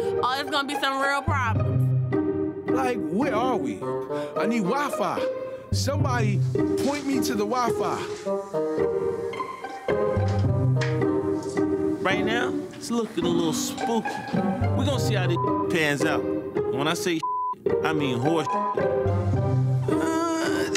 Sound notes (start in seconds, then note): 8.2 mischievous music continues; 15.3 beep; 17.2 beep